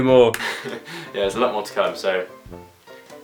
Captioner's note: laughs